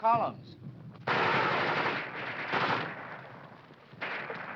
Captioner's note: guns firing